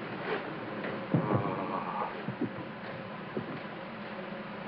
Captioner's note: man groans